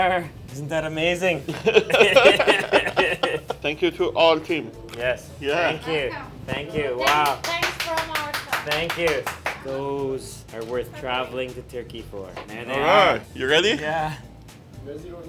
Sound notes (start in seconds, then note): 1.4 they laugh; 7.0 clapping